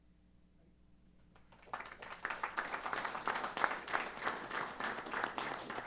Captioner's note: applause